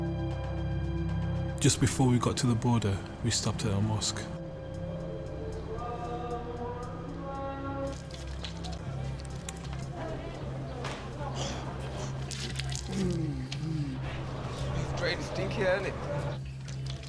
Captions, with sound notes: JUST BEFORE WE GOT TO THE BORDER, WE STOPPED AT A MOSQUE. [ CHANTING IN NATIVE LANGUAGE ] [ GROANS ] IT'S PRETTY STINKY, ISN'T IT?